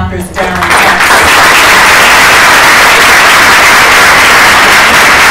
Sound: applause

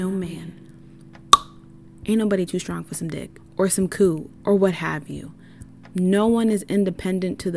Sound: pop

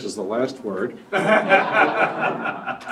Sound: laughter

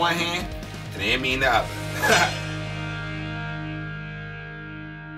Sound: laughs

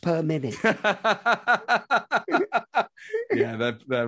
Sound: laughing

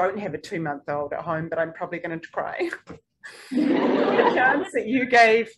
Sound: audience laughing

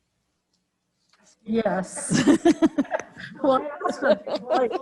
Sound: laughs; members laughing

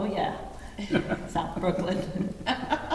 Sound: all laughing

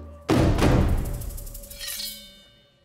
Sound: drumbeat plays; blade rings

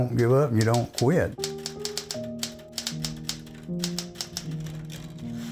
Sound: typewriter clicking

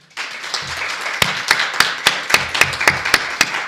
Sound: group applauding

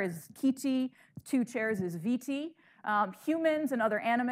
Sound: speaking in foreign language

